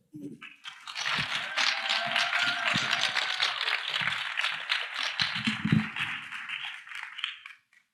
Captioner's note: applause